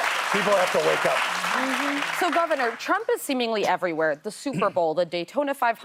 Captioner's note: applause